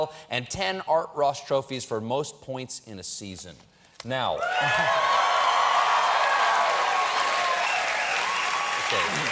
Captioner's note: cheers and applause